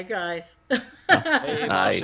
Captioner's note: laughs